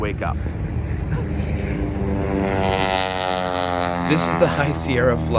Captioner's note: airplane engine